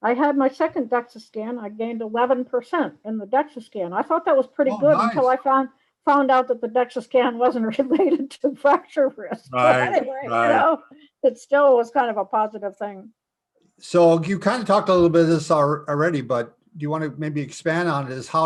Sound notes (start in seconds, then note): 9.1 laughs